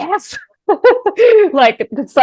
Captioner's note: laughing